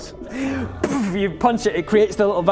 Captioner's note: boof